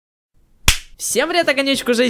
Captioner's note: clap